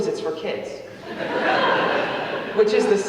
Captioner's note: audience laughing